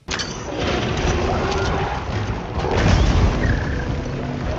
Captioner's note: monster screeching